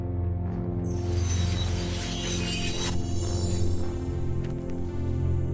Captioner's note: crystal pieces ringing